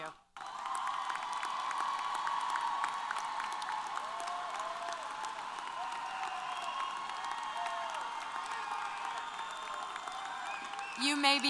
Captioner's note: applause & Cheers